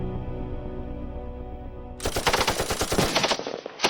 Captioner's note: gun fires